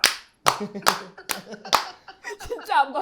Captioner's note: hehehe